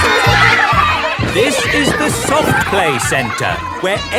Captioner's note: loudly over shouting